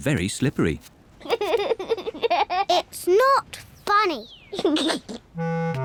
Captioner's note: giggles; giggles